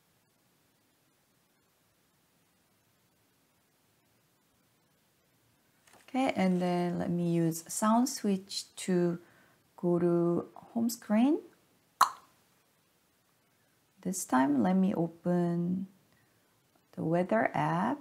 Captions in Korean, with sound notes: 다시 소리 스위치를 사용하여 홈 화면으로 이동하겠습니다. ('딱' 소리) 이번에는 날씨 앱을 열어 보겠습니다.